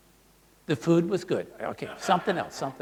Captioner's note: audience laughs